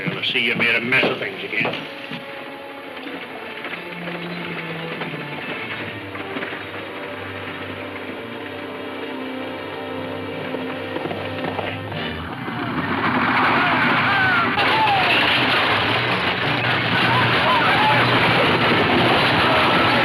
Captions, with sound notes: Well, I see you've made a mess of things, again. (ominous music playing) (horses galloping) (men shouting) (dramatic music playing)